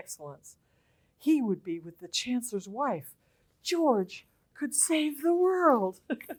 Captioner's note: laughter